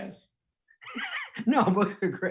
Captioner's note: laughing